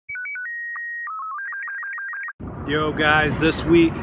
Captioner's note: electronic beeping